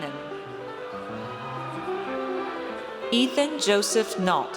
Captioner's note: audience cheers